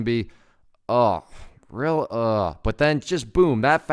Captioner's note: expressing disgust